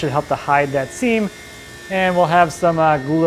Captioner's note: tool whirring